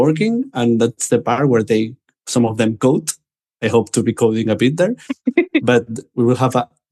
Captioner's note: laughter